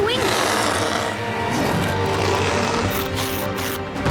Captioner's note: growling